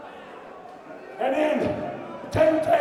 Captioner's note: crowd chatter